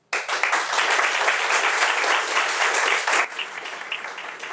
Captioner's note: audience applauds